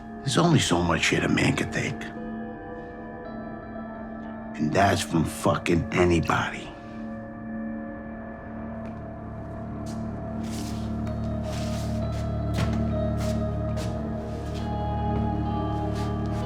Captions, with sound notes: there's only so much shit a man can take. And that's from fuckin' anybody. (low tense music continues) (footsteps shuffling)